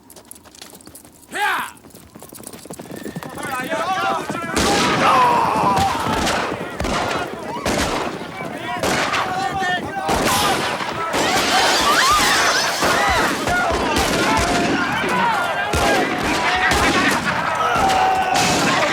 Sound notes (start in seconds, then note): 2.7 hooves clop; 2.7 townsfolk yell; 4.5 town member groans; 5.7 gun fires; 6.1 guns fire; 8.7 townsfolk yell; 11.1 plates shatter; 11.1 townsfolk scream; 13.6 guns fire; 13.6 townsfolk yell; 16.4 Twister laughs